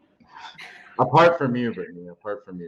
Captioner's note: chuckles